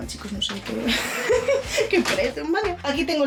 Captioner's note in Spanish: risas